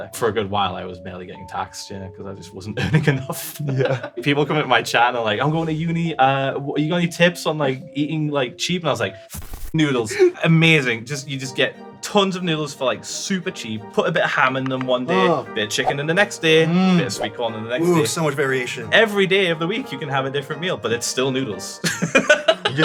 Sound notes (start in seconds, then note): 2.8 chuckles; 22.0 laughs